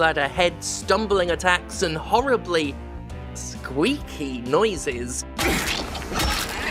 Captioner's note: squeaky